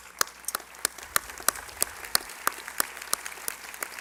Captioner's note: applause